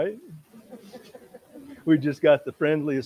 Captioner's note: audience laughs